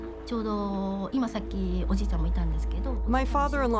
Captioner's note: speaking Japanese